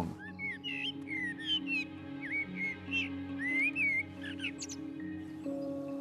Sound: bird singing

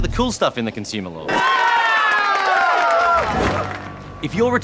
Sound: all cheer

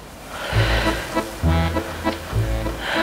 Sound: long exhales

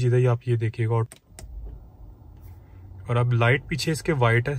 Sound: clicks

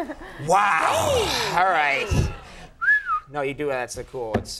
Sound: Conan whistling

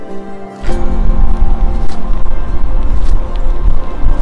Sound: wind whooshing

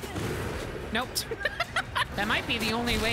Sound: laughter

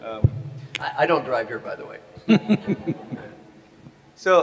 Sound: Sadhguru laughs

